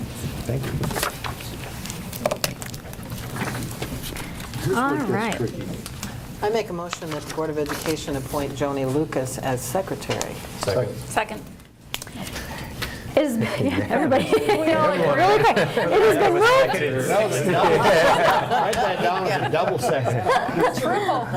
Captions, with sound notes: Congratulations. Thank you. This one gets tricky. All right. I make a motion that the Board of Education appoint Joni Lucas as secretary. Second. Second. Everybody. (chattering)